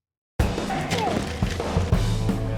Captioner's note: upbeat rock music; shouts